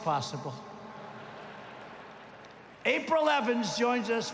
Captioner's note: applause